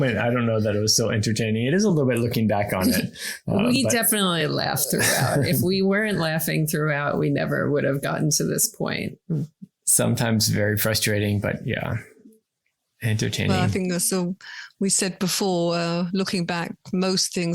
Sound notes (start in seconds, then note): 2.7 laughs